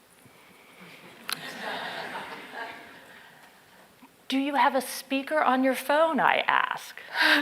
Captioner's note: laugh